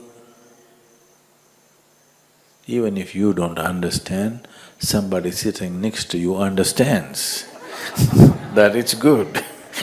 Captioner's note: laughter